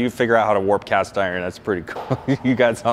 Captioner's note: laughs